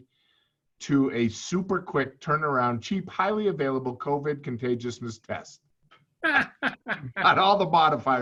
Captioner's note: chuckle